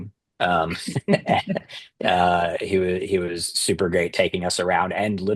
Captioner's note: laughter